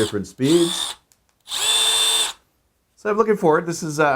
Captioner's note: whirring